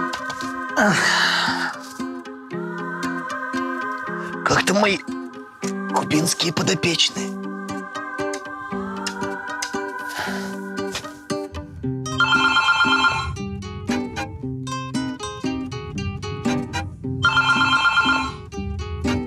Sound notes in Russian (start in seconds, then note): 11.4 звонок телефона